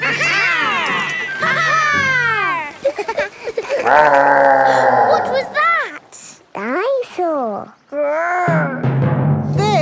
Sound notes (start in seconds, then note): 2.5 laughing; 3.4 gasps; 3.8 growling